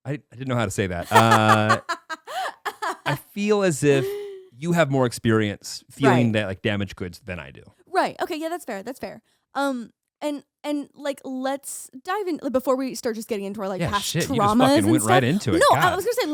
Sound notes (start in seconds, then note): 1.0 laughing